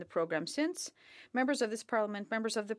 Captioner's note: speaking French